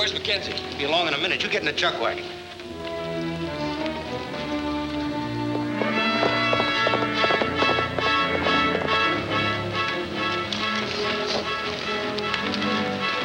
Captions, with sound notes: Where's McKenzie? - Be a long in a minute, you get in the chuck wagon. (suspenseful music) (horse galloping)